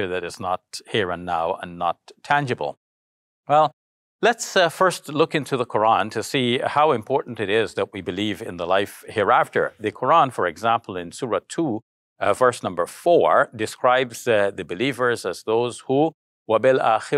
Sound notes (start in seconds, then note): 15.4 speaks in arabic